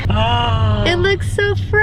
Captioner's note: gasps